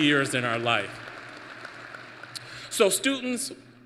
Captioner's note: applause